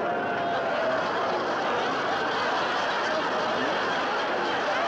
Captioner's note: audience laughing